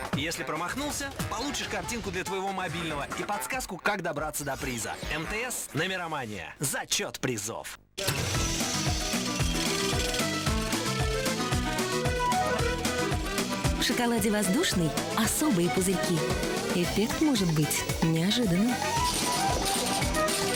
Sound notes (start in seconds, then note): 8.0 noise of jackhammers; 8.0 upbeat music